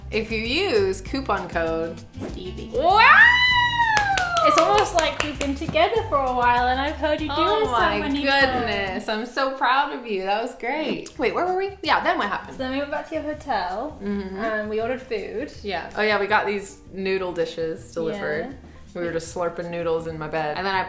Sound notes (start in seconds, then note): 2.1 air whooshing; 3.8 applauding